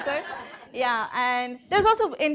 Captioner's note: audience laughing